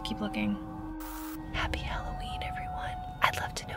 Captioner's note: static crackles